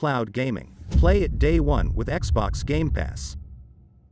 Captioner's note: dramatic sound